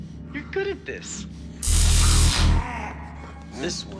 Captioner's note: zapping, snarling